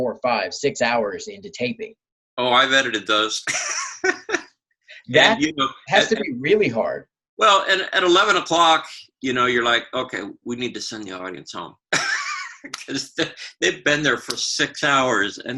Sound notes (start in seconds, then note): 5.0 laughing; 11.9 laughs